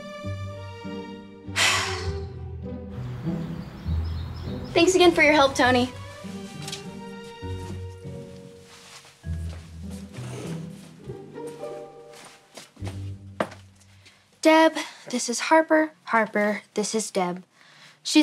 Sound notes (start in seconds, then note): 0.3 playful music; 1.5 sighing; 6.6 playful music